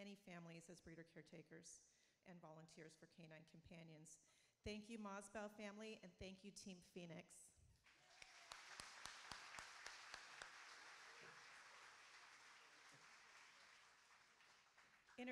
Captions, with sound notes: Presenting Phoenix today is Sharon... She shared with me 151 puppy starting... [Applauding] As co-caretaker she shared responsibilities with the family and they could not be here today.